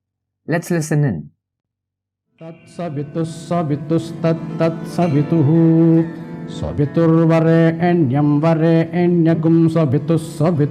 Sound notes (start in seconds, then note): 2.5 man chants in Sanskrit